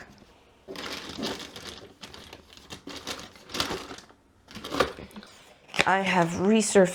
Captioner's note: rummaging gremlin noises